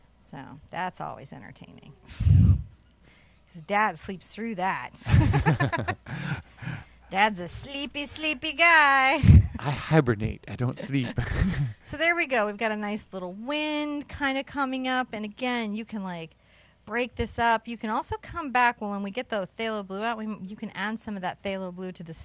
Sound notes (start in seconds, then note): 5.0 both laugh; 10.8 both chuckle